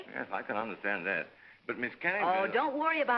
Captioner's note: none